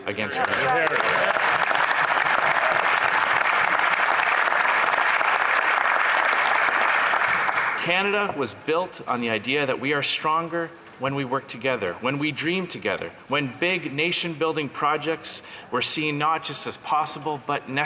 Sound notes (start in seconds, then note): 3.3 some Applause